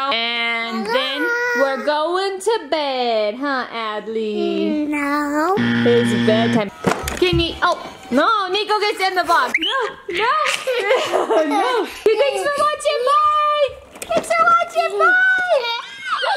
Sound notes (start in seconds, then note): 5.6 buzzer; 10.1 laughing